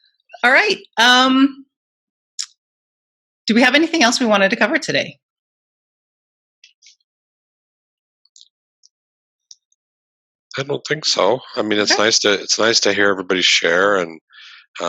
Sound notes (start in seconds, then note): 5.0 silence